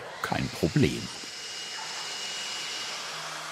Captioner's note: saw screeching